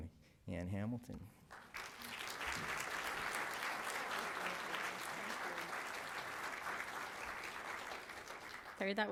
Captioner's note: applause